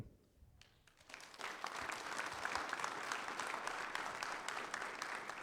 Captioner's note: audience clapping